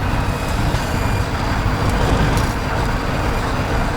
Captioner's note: engines rumbling